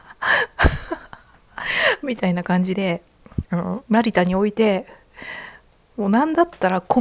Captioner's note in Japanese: 笑い